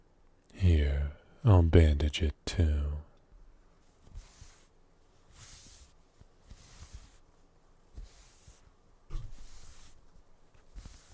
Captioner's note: bandage noise